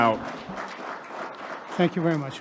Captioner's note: audience applauding